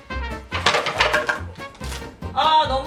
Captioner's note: clatter clatter